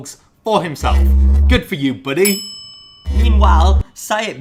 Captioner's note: bell dings